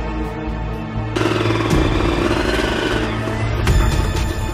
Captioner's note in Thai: เสียงมอเตอร์ไซค์